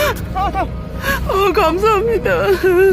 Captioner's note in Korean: 우는 소리